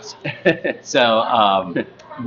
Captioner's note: laughs